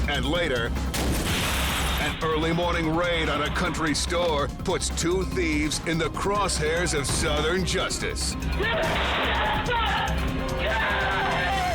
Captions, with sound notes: And later an early morning raid on a country store puts two thieves in the cross hairs of Southern justice. - (gun shots) (woman screams) get out of here.